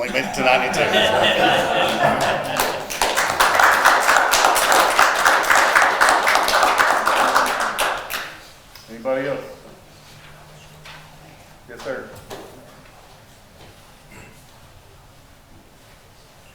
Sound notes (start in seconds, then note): 0.0 attendees laughing; 3.5 attendees applauding